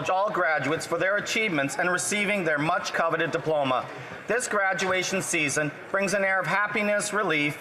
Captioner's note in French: voix de l'interprète